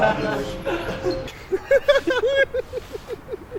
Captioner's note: laughter